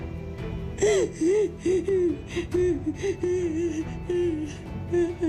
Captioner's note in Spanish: Sollozos